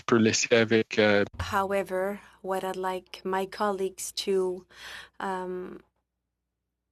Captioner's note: speaking French